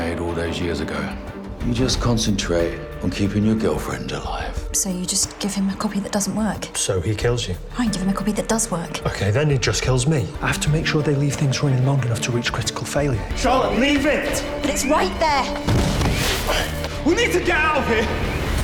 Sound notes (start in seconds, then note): 15.7 computer server explodes; 17.1 shouting